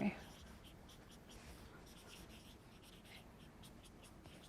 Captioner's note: marker scribbles